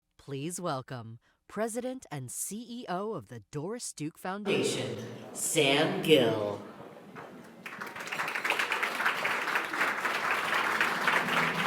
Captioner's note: applause